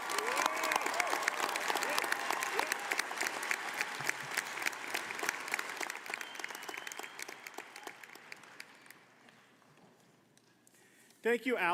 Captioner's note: applause